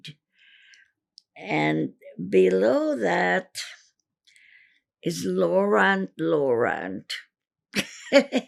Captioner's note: laughing